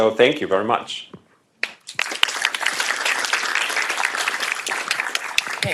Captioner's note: applause